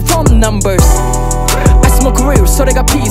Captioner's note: Prrr